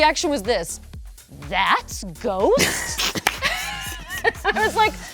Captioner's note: both laughing